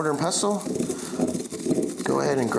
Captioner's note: peppercorns grinding